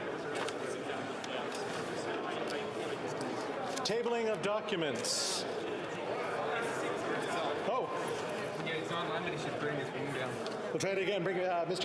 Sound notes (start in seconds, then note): 2.7 crowd Noise